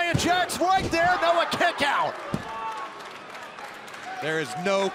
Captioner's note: crowd cheering